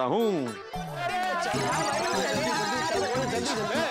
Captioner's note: indistinct chatter